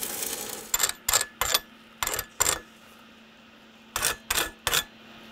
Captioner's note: metal grating against metal